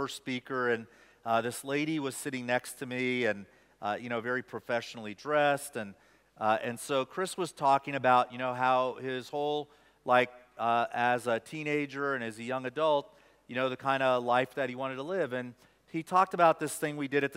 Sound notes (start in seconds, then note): none